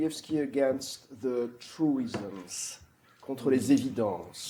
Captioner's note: french